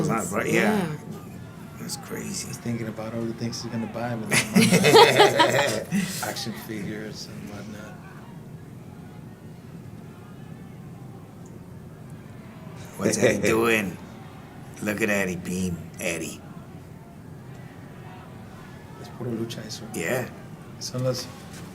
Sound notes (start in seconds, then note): 4.3 laugh